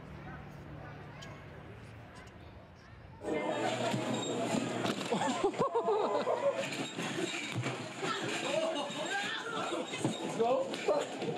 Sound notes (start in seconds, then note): 4.9 laughing